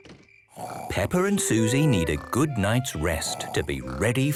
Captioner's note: Peppa and Suzy snoring